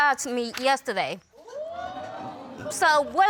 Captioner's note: audience exclaiming